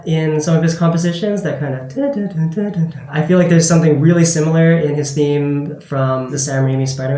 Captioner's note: humming